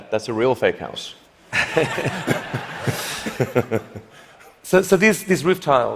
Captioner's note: laughter